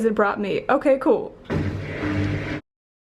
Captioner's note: machine starts